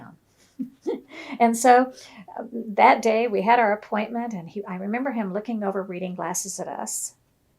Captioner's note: laughs